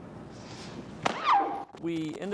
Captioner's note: yells